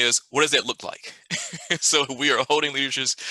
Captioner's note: laughs